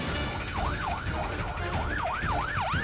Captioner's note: siren